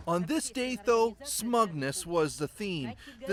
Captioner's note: speaking foreign language